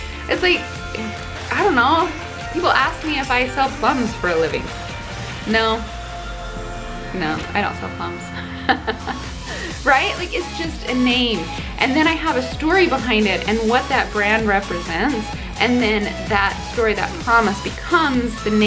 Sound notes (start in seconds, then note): 8.4 laughing